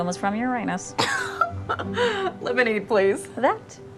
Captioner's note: Jordan laughs